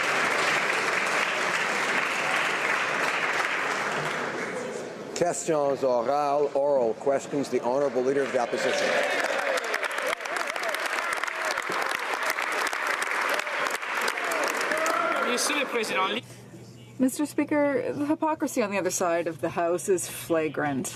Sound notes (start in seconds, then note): 4.4 applause; 12.4 some Applause